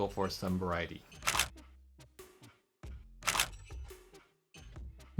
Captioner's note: camera clicks